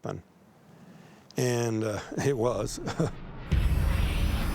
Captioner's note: chuckles